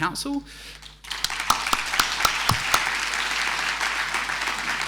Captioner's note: audience applauding